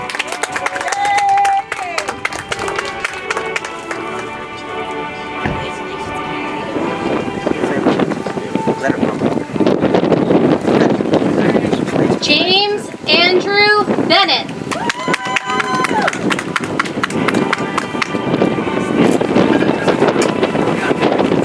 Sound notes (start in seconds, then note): 0.0 audience applauds; 3.8 soft music; 14.6 audience applauds; 19.0 soft music